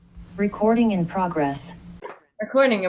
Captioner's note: Zoom voice